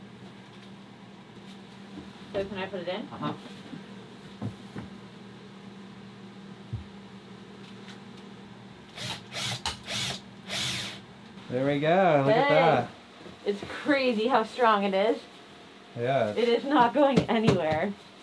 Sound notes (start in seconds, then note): 10.4 drilling